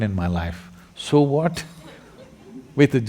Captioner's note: laughter